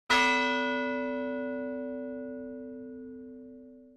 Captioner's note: bell tolling